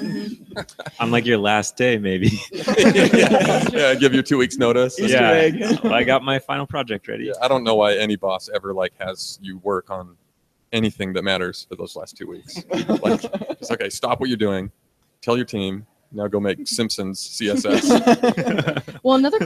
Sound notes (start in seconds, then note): 0.2 several people laugh; 2.2 all laugh; 17.4 all laugh